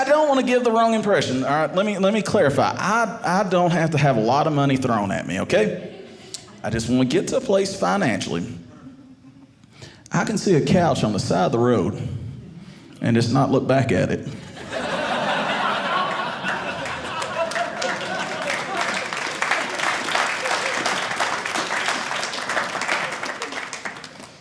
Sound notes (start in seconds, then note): 14.6 audience laughing; 17.1 audience applauding